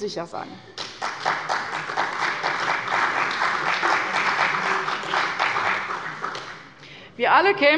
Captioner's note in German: Beifall bei der CDU und dem BÜNDNIS 90/DIE GRÜNEN